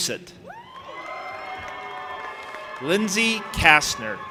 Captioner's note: audience applauding and cheering